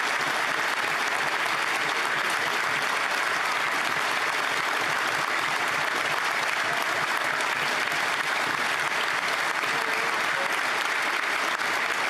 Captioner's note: applause